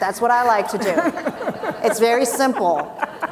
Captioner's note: people laughing